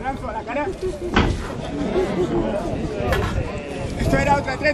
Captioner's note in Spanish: el público comenta